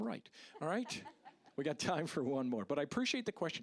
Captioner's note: audience laughing